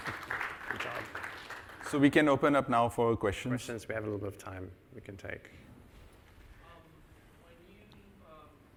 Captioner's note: applause